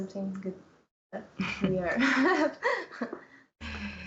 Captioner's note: chuckles